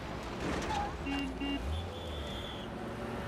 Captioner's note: truck Horn Honks